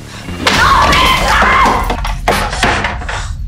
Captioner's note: Chair breaks